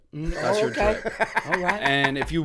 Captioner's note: laughter